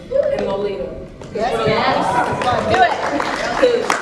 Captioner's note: cheers